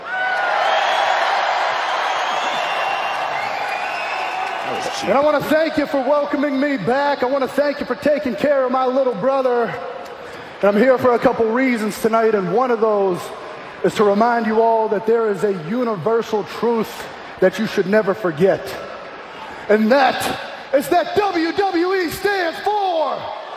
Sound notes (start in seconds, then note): 5.1 cheers and applause